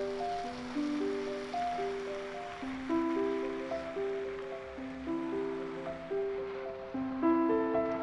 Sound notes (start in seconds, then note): 0.0 gentle piano music; 0.9 engine humming